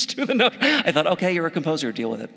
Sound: laugh

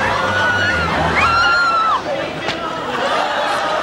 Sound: screaming

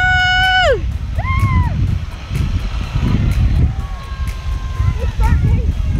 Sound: kids continue cheering

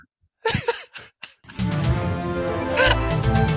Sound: laughs

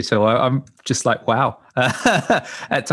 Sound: laughs

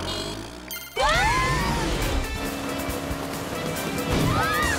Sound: all scream

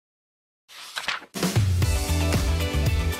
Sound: page flips; theme Music

